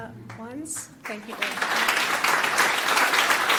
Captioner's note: applause